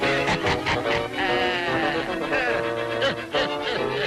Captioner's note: spider laughing